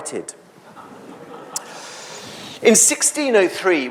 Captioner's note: audience laughs